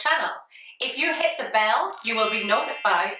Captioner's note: bell tinkles